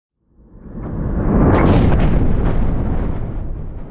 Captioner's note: thunder crashing